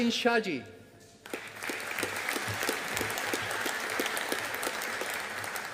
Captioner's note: audience applauding